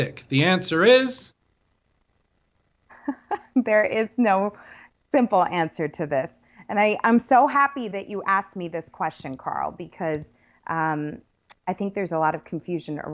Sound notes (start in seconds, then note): 2.9 laughs